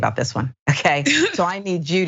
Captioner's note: laugh